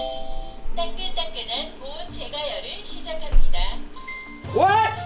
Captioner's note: foreign language